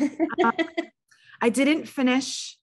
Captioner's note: chuckles